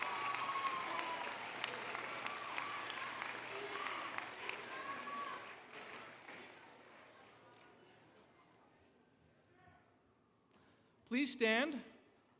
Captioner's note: applause